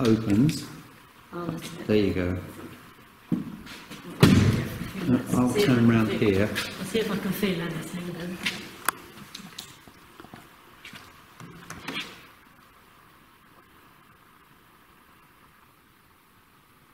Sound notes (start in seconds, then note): 3.2 shoes clopping; 4.2 gate slamming